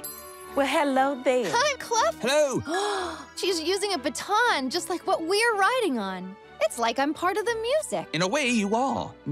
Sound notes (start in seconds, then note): 2.7 gasps